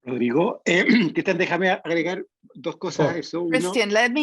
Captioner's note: speaking in foreign language